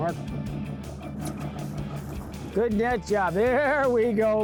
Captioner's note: boat engine chugging